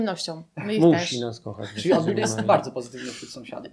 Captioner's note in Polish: śmiech